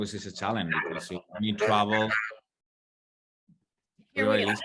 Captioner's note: feedback continues